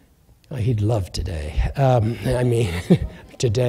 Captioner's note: laughter